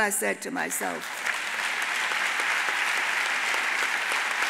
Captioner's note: audience applauds